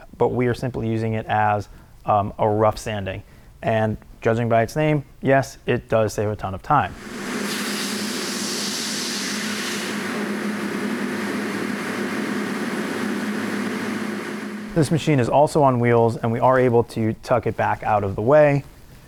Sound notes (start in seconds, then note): 6.9 machine revving